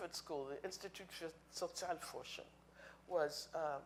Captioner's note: speaking in foreign language